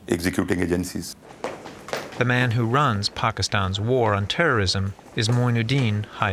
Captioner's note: voice-over